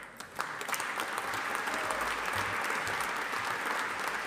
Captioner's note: audience applauding